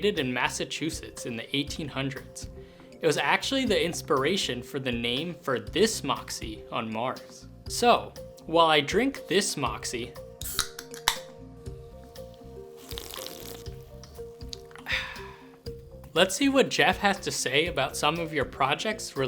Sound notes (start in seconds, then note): 12.7 slurp